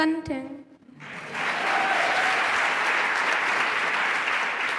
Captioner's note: applause